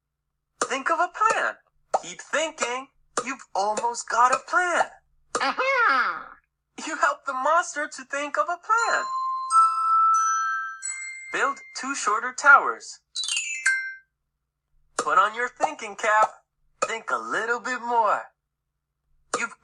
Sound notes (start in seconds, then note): 5.6 moans; 8.8 chimes